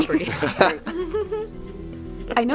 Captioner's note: laughter